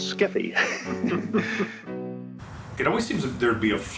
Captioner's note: both laughing